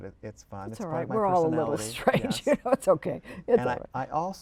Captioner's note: laughter